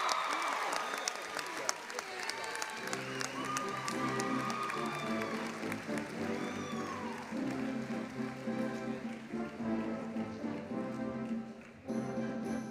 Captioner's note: applause